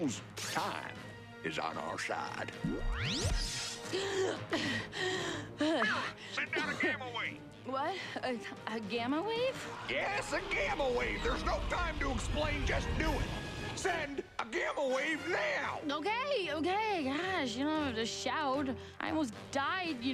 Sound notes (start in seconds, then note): 3.8 whoosh; 3.8 gasping